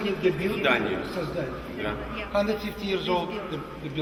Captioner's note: speaks in the Russian language